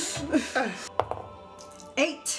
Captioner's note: dice roll